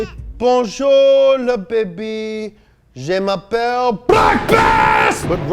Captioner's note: speaking in foreign language